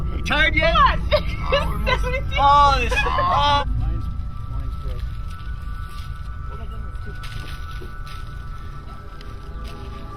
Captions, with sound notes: - GO! - TIRED YET? - [laughs] 17.